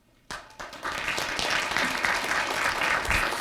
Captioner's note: applause